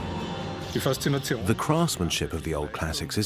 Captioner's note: in German; dubbed in English